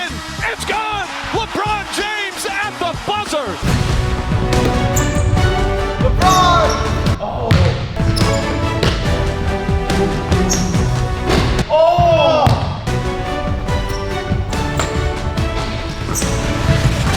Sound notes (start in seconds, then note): 3.6 upbeat orchestral music; 7.2 player grunt; 7.4 ball bounces; 9.8 ball hits rim; 10.1 upbeat orchestral music; 12.8 upbeat orchestral music